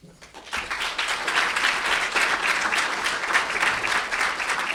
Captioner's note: audience clapping